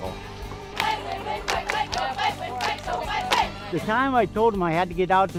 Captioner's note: fans chanting